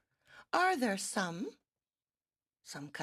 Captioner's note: speaking in French